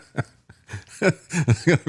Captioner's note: laughing